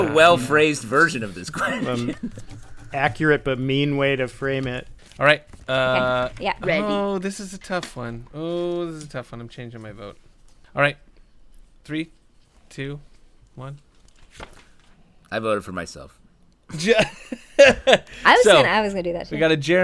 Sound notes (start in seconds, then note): 13.9 crew flips papers; 16.7 laughter